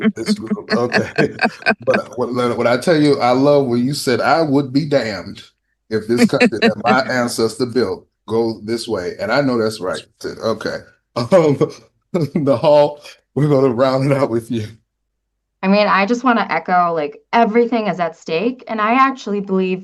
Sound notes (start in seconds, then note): 6.1 laughter